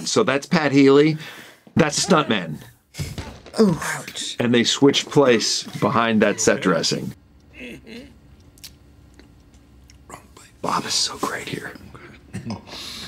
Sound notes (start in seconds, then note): 7.5 Gene coughing